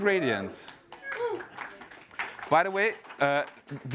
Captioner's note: applause